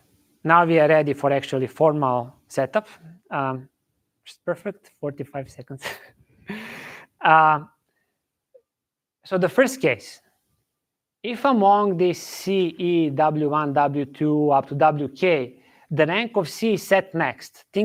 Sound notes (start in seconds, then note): 5.8 chuckles